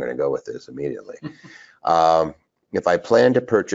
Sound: chuckles

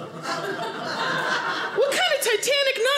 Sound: audience laughing

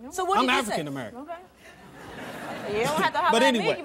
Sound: audience laughs

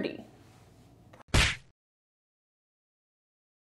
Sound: slap

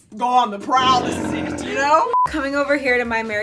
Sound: tiger growling

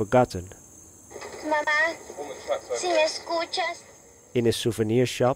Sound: speaking in foreign language

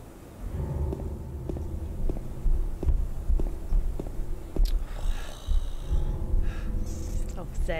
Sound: SFX played through chat - Footsteps that seem to be coming from above

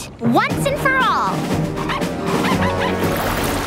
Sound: barking

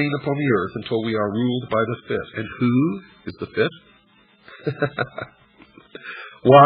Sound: laughs

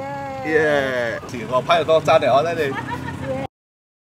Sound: Mandarin

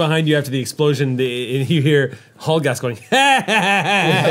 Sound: laughing

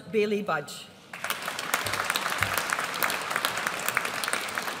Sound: audience applauds

